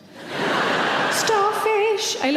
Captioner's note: audience laughing